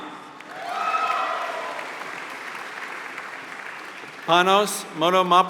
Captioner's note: applause